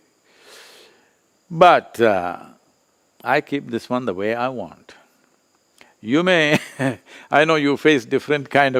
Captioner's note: laughs